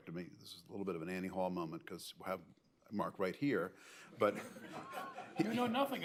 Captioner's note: laughter